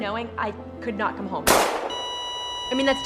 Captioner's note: gunshot blasting; EKG machine beep